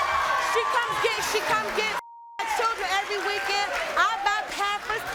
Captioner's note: beep